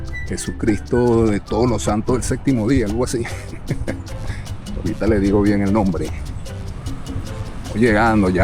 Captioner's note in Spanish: risas